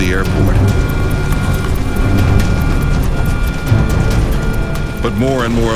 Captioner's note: plane engine rattles